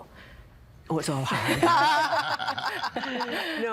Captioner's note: laughing